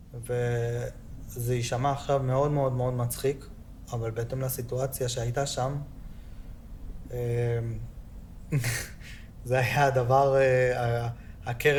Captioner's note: Hebrew